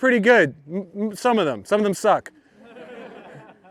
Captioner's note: laughter